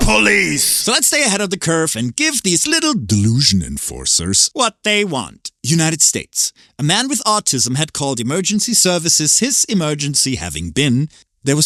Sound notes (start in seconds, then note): none